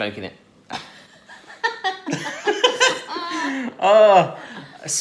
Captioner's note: laughing